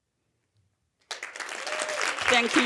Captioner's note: audience applauding and cheering